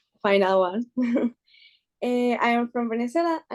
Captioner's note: chuckles